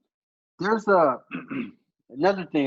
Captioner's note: clears throat